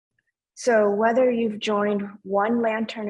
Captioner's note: speaking in foreign language